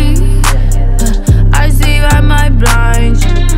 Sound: hmm, hmm

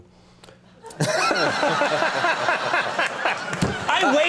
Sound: laughter

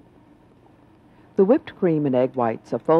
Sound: voiceover

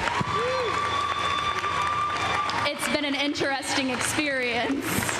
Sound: cheers and applause

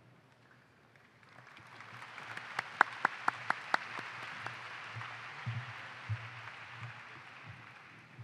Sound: applause

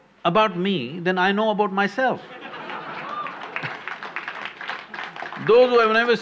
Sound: laughter/Applause

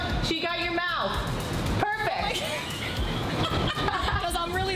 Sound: laughs

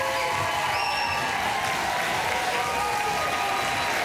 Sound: applause

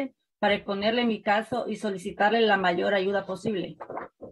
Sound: speaking in spanish

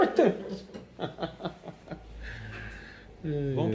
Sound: R isadas

